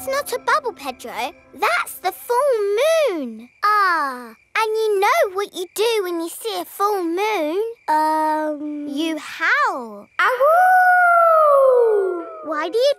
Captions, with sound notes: That's not a bubble, Pedro, that's the full moon! Ah. And you know what you do when you see a full moon? -Um... -You howl. (HOWLING)